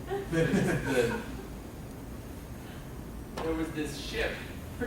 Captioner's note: laughing